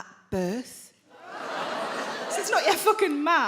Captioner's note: audience laughing